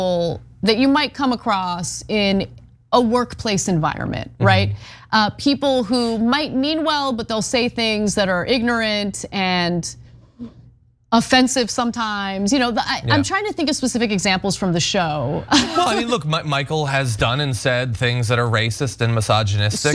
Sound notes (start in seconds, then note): 15.5 laugh